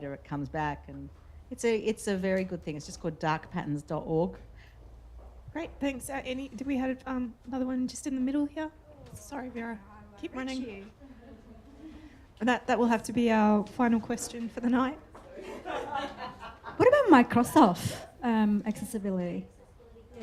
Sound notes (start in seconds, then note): 15.3 audience laughter